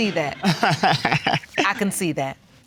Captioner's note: laughing